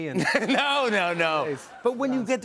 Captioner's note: laughter